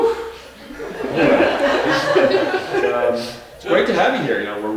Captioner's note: audience laughing